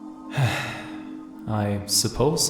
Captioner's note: Zarek sighs